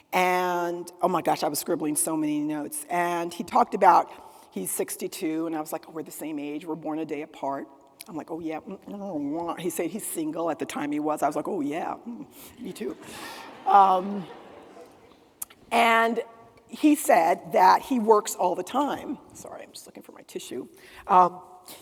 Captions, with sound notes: and oh my gosh, I was scribbling so many notes. And he talked about he's 62 and I was like, oh, we're the same age, we're born a day apart. I'm like, oh yeah- He said he's single. At the time he was, I was like, -oh yeah, me too. -(attendees laughing) And he said that he works all the time. Sorry, I'm just looking for my tissue.